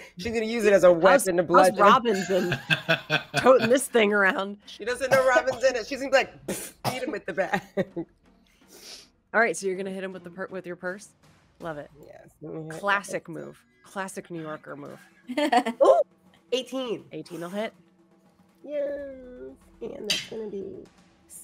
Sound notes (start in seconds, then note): 7.1 laughs